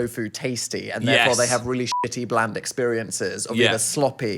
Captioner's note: beep